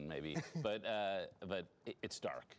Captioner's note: laughter